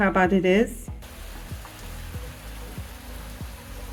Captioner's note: rain